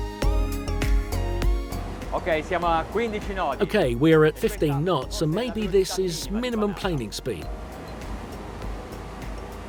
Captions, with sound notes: (speaking in foreign language) Okay, we're at 15 knots and maybe this is minimal planing speed.